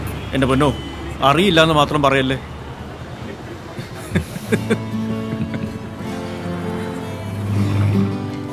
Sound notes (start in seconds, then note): 3.7 both laugh